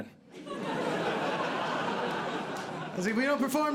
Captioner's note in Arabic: ضحك